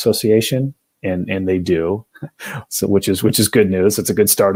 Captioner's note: laughter